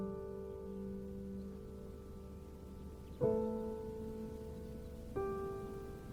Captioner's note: water rushing in distance; gentle piano music continues